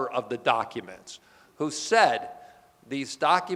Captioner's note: none